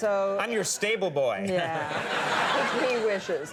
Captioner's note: audience laughs